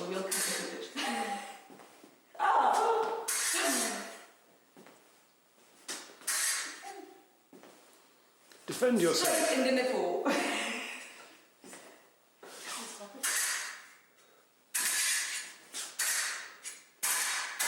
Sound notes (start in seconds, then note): 1.5 chuckles; 3.2 swords crackling; 10.2 chuckles; 13.2 swords clanging